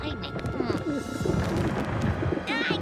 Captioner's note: pigeon coos